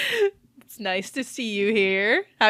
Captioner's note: laughing